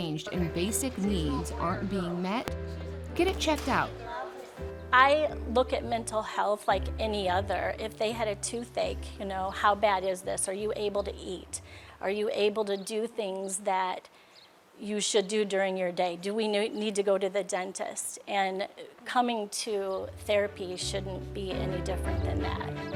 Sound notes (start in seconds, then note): 4.1 people speaking indistinct; 6.9 warm chill music; 19.9 warm chill music